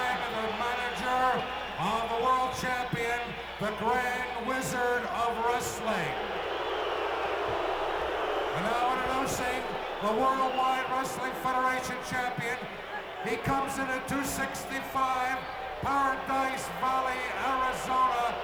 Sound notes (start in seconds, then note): 6.5 audience booing